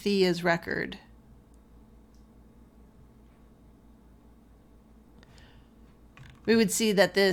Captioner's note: silence while waiting for it to load